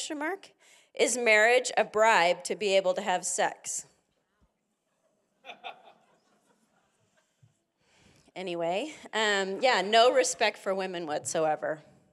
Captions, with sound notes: is marriage a bribe to be able to have sex. (congregant laughing) Anyway, yeah. no respect for women whatsoever.